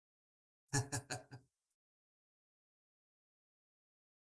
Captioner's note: chuckling